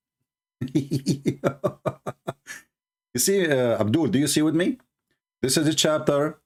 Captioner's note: Ketawa